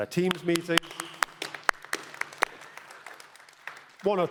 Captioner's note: applause